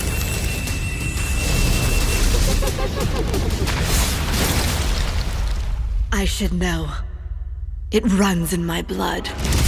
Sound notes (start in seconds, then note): 2.2 demonic laughter